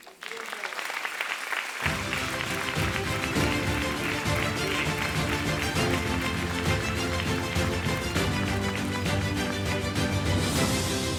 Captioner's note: applause, Music